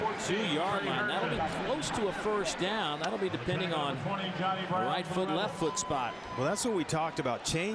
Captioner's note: crowd noise